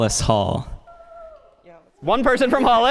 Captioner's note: cheers